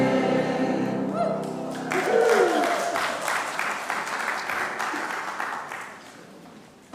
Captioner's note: congregation applauding and whooping